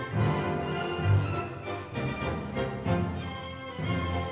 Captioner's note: fabric rustling